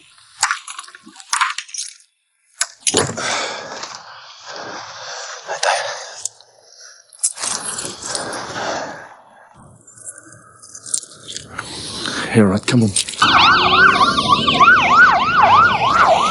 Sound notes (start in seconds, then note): 1.4 chain rattling; 3.1 John sighs; 13.1 sirens wailing